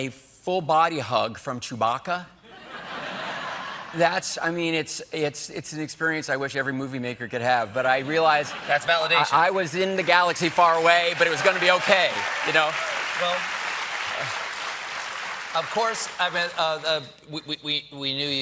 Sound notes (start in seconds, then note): 14.9 applause